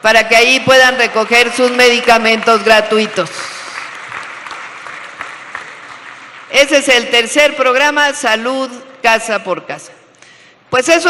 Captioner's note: applause